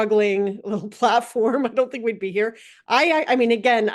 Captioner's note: laugh